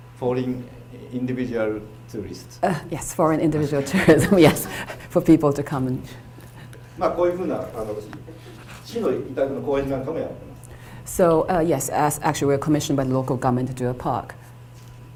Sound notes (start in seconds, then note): 7.1 speaking foreign language